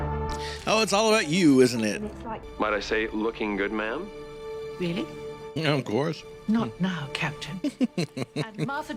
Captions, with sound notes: Oh, it's all about you, isn't it? [tiny laugh] Of course. [laughing]